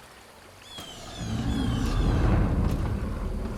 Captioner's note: footsteps tap; Loki growls; menacing, dark music